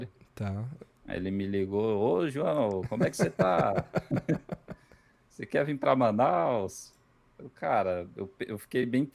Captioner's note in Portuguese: risadas